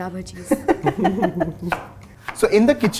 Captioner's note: chuckles